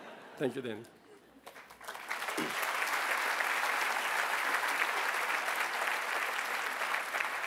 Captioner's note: laughter; applause